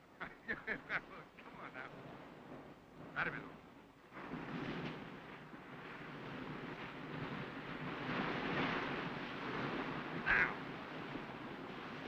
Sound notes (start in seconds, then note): 1.1 laughs; 3.1 Thomas speaks in Spanish